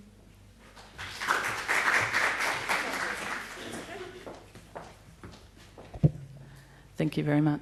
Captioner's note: applause